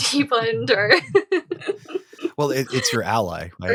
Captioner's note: chuckling